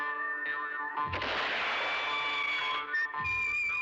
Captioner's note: gunshot